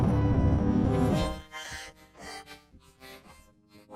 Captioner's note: gasping